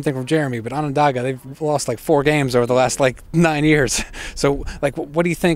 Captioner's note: laughs